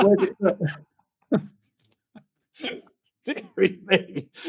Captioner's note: laughter